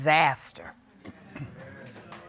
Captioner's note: clears throat